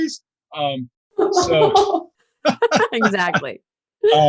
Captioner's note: laughing